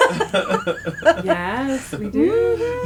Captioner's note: laughter